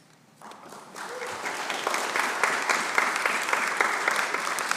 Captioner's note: audience applauding